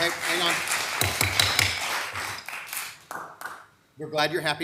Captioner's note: gavel banging